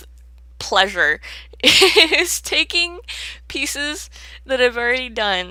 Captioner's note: laughs